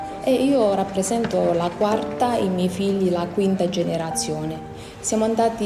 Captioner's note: speaks in foreign language